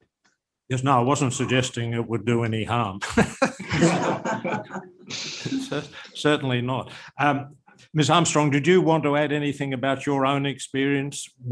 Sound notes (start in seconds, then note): 3.1 laughter